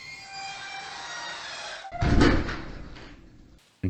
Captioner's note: cell door shuts